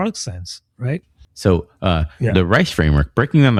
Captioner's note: uh